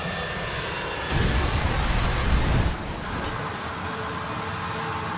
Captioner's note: plane blasts